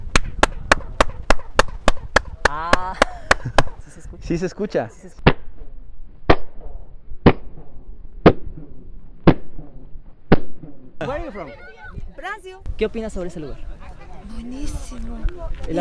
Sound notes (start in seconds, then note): 0.1 applause; 5.2 slow motion sound